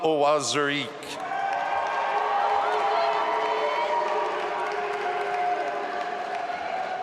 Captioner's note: audience applauding and cheering